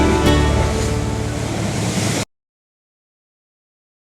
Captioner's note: waves crashing